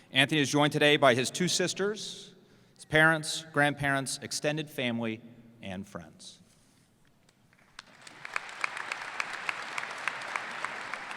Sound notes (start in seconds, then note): 7.5 applause